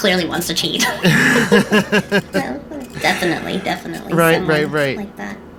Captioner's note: laughs